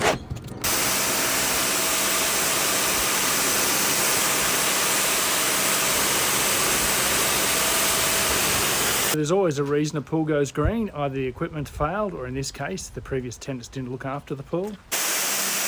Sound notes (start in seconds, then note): 0.0 shovelling algae & sludge into bucket; 0.6 jet washing wall; 14.9 jet washing wall